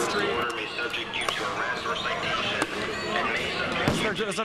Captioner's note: explosions - police dispersal orders given over LRAD speaker